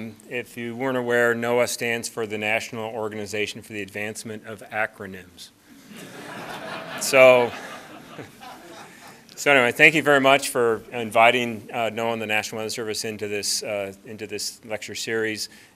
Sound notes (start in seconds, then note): 5.8 laughter